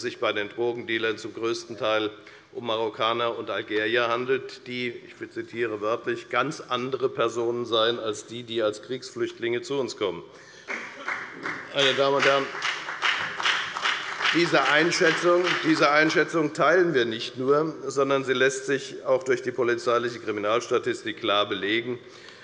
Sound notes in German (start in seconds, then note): 10.5 Beifall bei der FDP und bei Abgeordneten der CDU